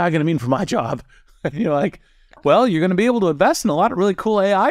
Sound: laugh

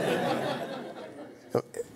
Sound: laughter

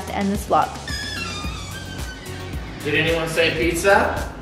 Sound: door squeaking

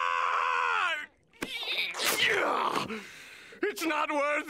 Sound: screaming; grunting

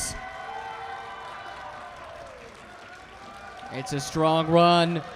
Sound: crowd cheering

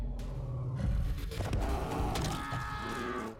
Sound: crunch

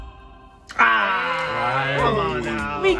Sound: participants exclaim

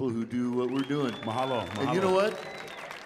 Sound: audience applauding

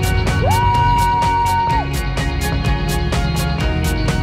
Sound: moves into dreamy music; cheering

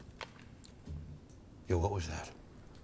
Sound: twig snaps

